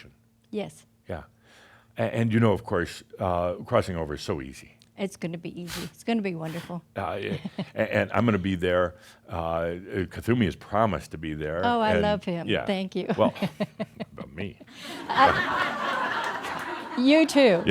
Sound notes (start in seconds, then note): 7.2 she chuckles; 12.9 she laughs; 15.6 laughter